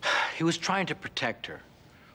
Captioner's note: sighs